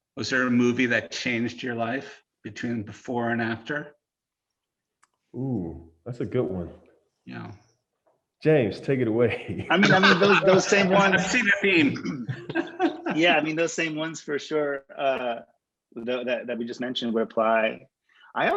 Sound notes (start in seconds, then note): 9.1 people laughing